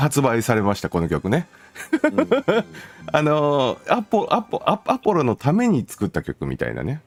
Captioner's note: laughs